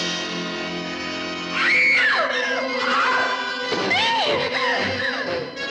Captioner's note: screaming